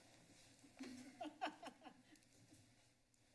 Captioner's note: laughs